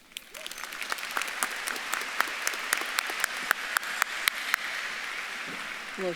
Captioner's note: audience clapping; audience member whoops